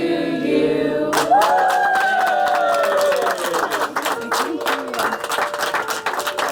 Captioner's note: applauding